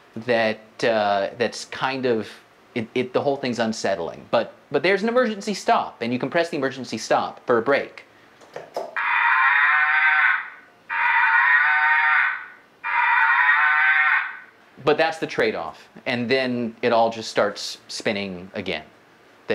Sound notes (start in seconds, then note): 9.0 cow mooing